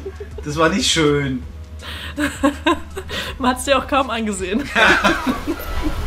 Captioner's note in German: Lachen